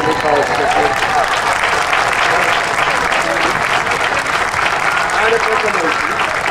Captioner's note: audience cheering and applauding